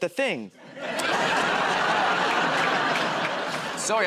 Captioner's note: laughter